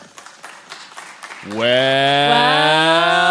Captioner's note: audience applauds